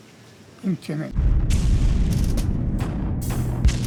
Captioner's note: atomic bomb explosion sound